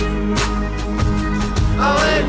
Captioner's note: none